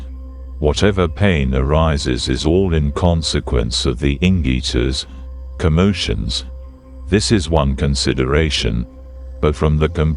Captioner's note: commotions